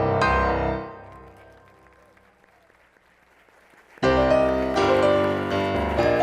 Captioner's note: applause